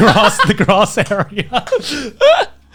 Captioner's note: laughing